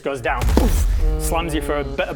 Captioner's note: boof!